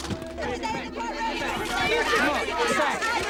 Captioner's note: clamoring